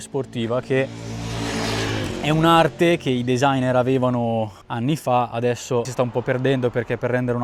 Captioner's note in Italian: rombo del motore